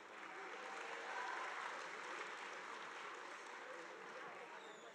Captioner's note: audience applauding